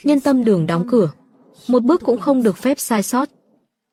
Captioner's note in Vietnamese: none